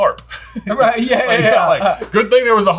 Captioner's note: both laughing